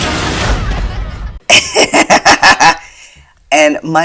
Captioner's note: laughter